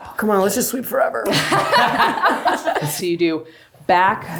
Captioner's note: everyone laughs